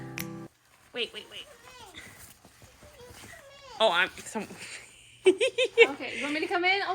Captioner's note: laughing